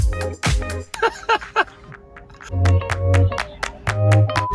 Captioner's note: laughing